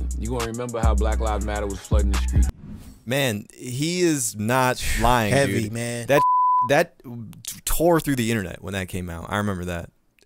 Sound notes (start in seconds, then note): 6.1 beep